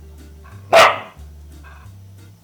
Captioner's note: Pancake barks